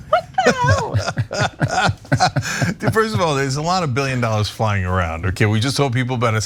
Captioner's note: laugh